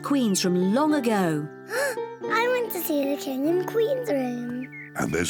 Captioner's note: gasps